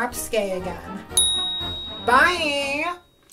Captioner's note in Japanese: イけてるベルの音